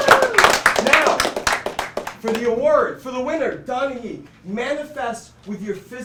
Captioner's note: cheering